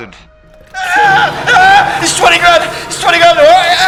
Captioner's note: Daveyboy screaming